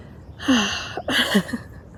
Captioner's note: sighs